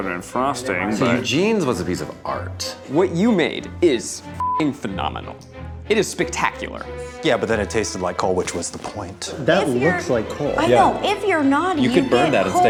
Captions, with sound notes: - It was slathered in frosting. - Eugene's was a piece of art. - What you made is (beep) phenomenal. It is spectacular. - Yeah, but then it tasted like coal, which was the point. - That looks like coal. - I know, if you're naughty you get coal.